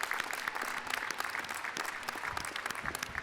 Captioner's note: applause